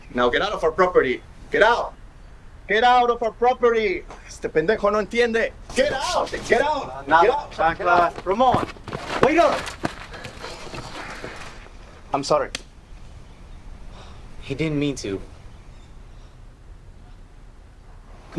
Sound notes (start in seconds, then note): 9.8 body thudding on groud